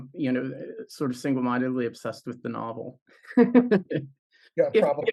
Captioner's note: laughs